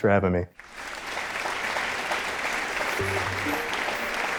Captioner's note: audience applauding; upbeat music